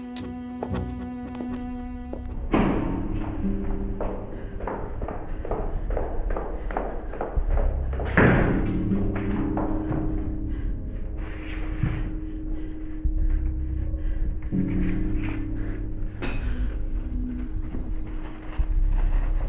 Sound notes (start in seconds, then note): 3.8 footsteps; 10.8 hard breathing; 13.7 soft dramatic music